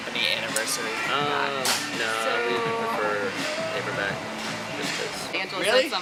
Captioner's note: both talking on phone